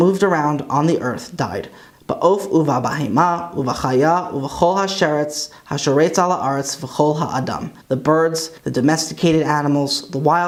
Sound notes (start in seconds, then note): 0.0 Hebrew; 4.0 Hebrew